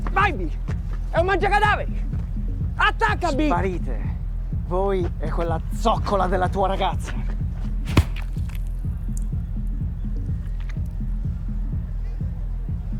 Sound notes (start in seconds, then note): 7.8 whack